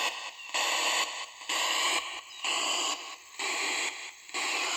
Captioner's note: ghost box buzzing